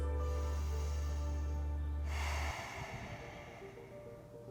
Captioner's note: deep breathing